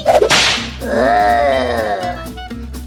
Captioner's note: snap